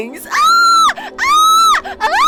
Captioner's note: squeal; squeal x2; squeal x3